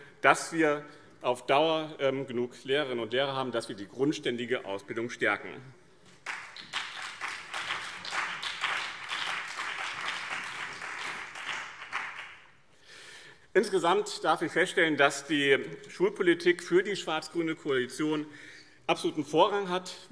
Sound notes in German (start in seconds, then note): 6.2 Beifall BÜNDNIS 90/DIE GRÜNEN und CDU